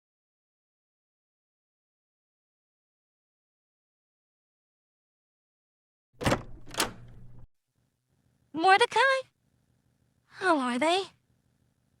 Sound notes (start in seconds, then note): 6.2 door opens